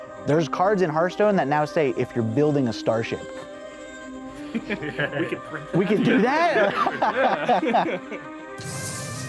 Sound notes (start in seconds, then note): 4.4 laughter